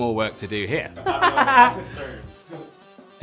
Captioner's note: laughs